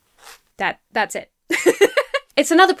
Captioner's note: laughs